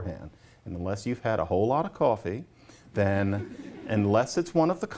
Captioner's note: laughter